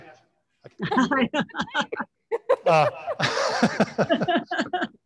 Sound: panelists laughing

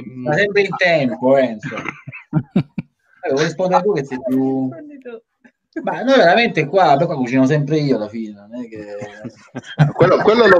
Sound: laughs

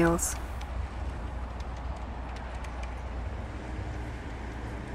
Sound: car and people sounds

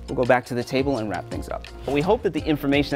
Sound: air whooshing

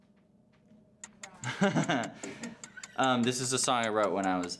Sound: timer ticking

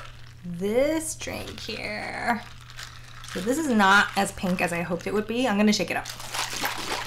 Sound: ice shaking sounds

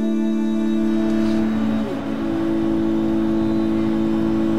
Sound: urban sounds

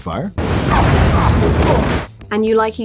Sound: grunting; fire roaring

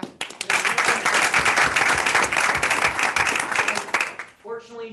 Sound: attendees applauding

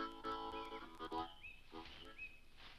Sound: money rustles

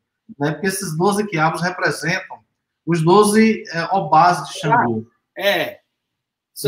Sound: speaks portuguese

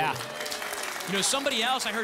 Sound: audience applause

